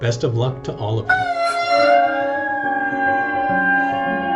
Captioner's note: all cheering